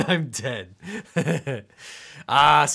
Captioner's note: laughing